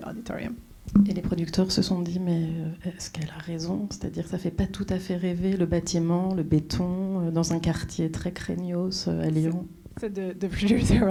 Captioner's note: speaking French